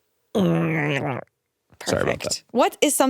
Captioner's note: grunts